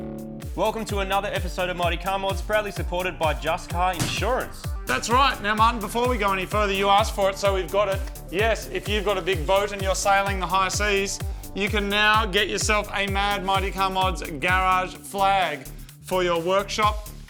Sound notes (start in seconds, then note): 4.0 ball bounces